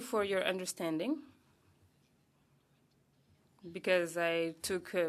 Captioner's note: speaking French